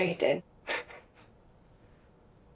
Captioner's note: laughs softly